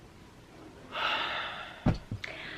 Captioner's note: sighs